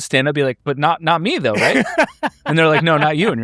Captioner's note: laughs